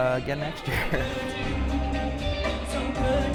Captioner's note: laughs